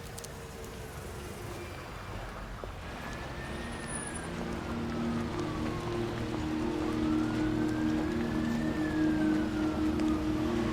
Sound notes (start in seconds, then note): 2.9 distant police siren wailing; 6.8 sombre music